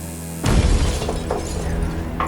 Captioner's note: very loud crash